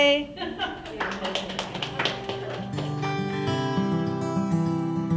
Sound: giggles, Laughs and Applause from Audience Members

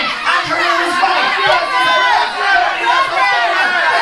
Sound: announcer rumbles; crowd cheers

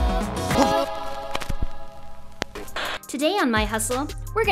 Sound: static

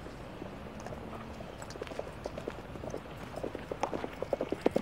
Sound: horse galloping

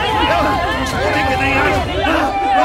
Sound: indistinct chatter

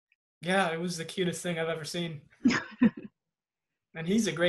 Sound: harper chuckles

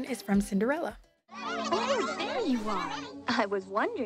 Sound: mice chatter

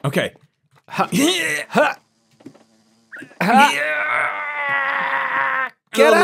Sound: make bee pushing noises

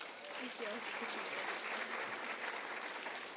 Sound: applauds

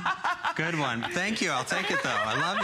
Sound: laughter

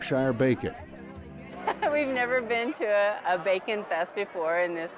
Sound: laughs

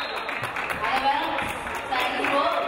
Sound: referee blows whistle; audience applauding

